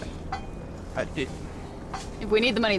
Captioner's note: scoffs; Billy stammers